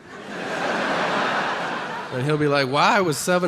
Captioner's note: audience laughing